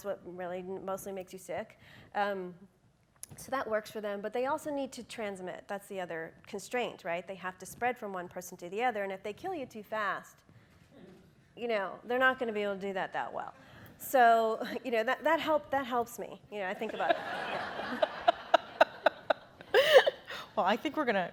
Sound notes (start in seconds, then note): 16.8 laughing